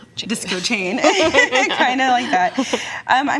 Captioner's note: both laugh